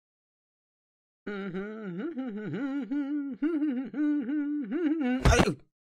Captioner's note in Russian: напевает мелодию